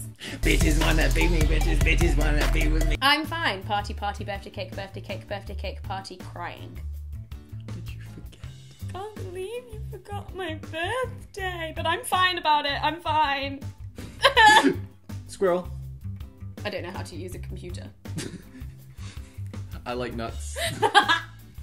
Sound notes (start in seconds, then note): 14.3 sobs; 18.1 chuckling